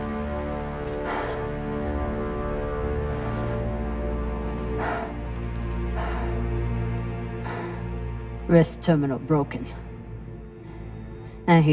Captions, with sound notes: [PANTING] Wrist terminal broken. And